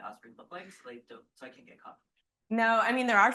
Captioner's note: speaks faintly